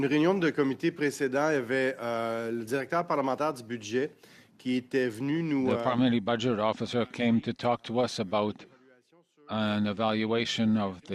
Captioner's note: speaking French